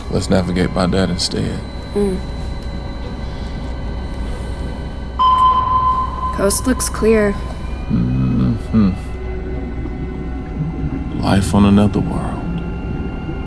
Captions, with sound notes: Let's navigate by that instead. (system beeping) - Coast looks clear. - Life on another world.